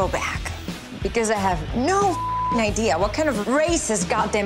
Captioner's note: beep